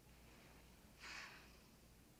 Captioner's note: sighs